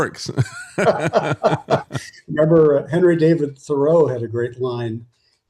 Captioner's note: laughing